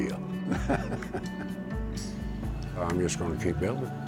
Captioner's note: laughter